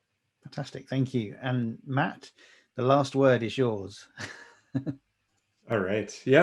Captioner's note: laughing